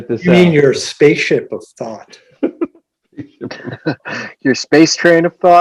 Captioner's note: laughter